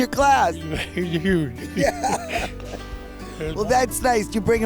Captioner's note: laughs